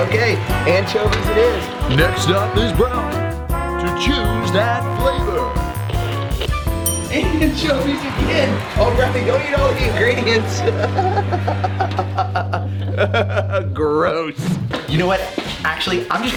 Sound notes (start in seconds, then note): 6.8 ding; 10.4 laughter